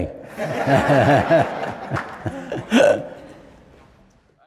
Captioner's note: laughing